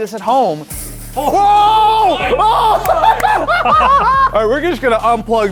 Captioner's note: both laughing